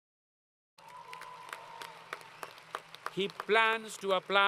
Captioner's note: applause